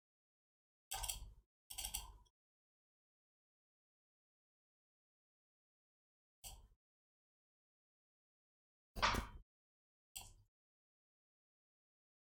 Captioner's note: blank Audio